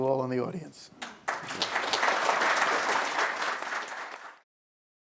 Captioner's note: applause